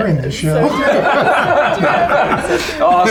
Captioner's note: laughter